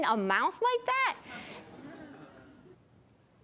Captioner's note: audience awes